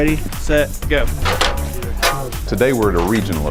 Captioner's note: aluminum ladder knocks against ground